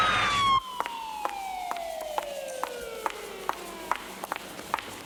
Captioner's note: footsteps clanking